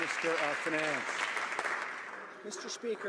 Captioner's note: some Applause